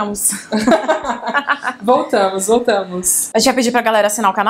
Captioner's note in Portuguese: risos